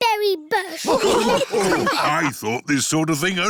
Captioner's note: snorts; all laughing